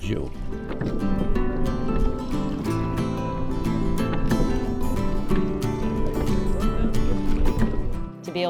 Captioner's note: water rippling